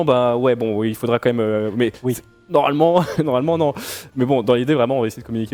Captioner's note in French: rires